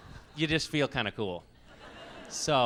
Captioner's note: laughs